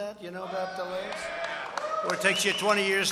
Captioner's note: applause